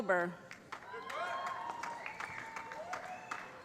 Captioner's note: applause